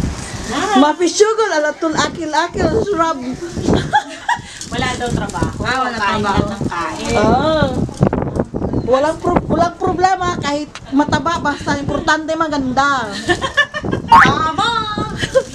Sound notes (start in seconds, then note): 13.1 chuckles